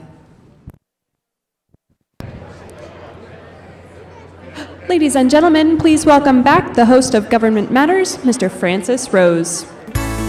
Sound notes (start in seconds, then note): 2.2 chattering